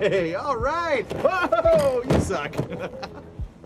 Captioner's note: laughing